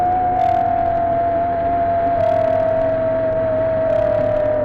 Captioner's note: camera whirring